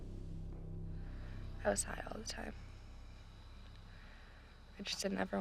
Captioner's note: insects chirping